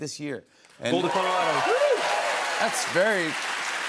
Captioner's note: cheers and applause